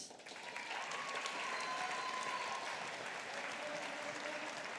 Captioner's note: audience applauding